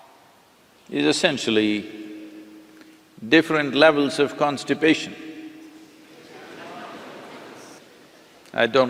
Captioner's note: few laugh